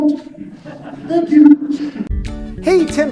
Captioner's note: laughing